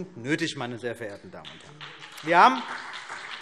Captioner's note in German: Beifall CDU und BÜNDNIS 90/DIE GRÜNEN